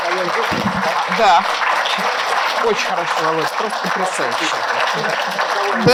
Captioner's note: speaking russian